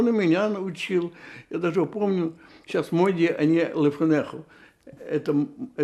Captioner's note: hebrew